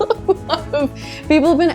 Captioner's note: laughs